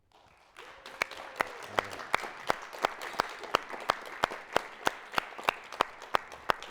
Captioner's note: applause